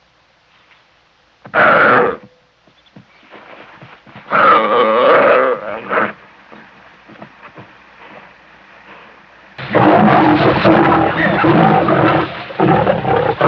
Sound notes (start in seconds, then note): 1.5 wildebeest suprised and upset sounds; 9.6 angry Lion sound